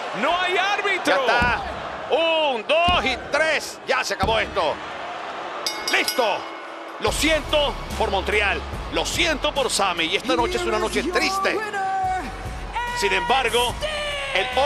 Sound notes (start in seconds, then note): none